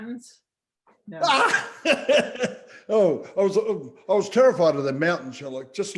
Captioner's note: laughing